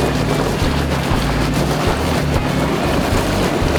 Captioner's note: tires spinning